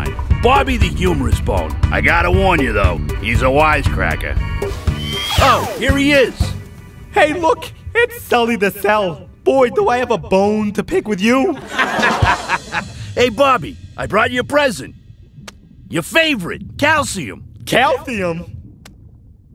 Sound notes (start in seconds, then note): 11.5 audience laughing